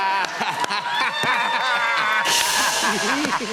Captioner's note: cheers and applause